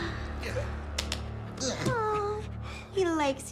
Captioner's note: grunts